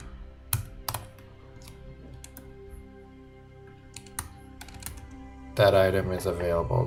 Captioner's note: calm music; keyboard typing